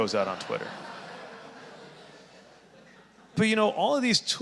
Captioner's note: audience laughing